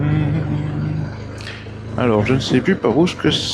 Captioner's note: engine